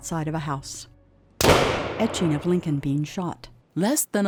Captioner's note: single gunshot